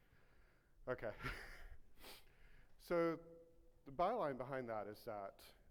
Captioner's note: laughs